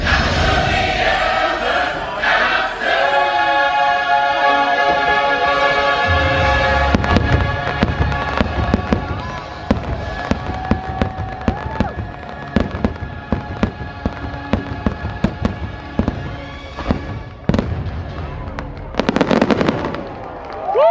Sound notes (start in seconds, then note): 4.4 uplifting instrumental music; 7.8 fireworks exploding; 10.7 crowd members cheer; 12.6 fireworks exploding; 19.0 fireworks exploding